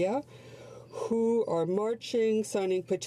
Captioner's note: speaking French